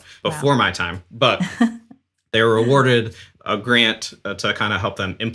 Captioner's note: laughs